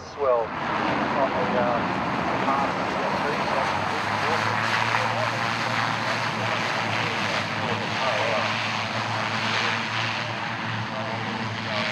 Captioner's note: aircraft sounds